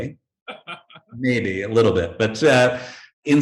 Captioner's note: chuckling